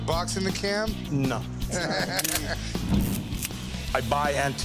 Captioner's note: laughter